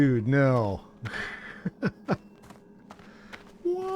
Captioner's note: laughs